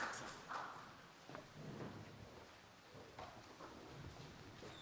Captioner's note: applause